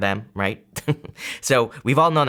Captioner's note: laughs